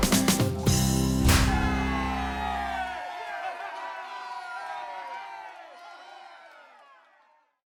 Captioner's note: crowd cheers; object explodes